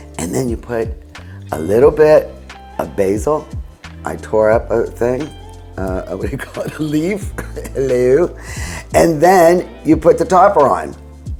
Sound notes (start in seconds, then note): 7.3 chuckles